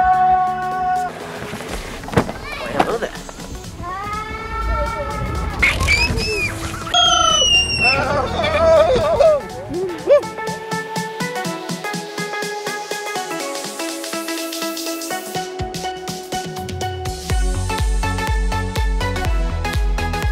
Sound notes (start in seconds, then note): 6.8 screaming; 11.6 upbeat techno music